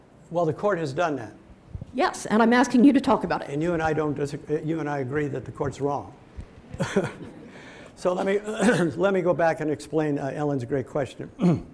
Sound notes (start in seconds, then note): 6.7 laughs; 6.7 audience laughing